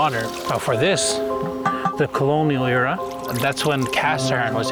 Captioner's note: taps pot